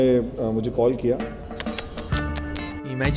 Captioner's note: tsks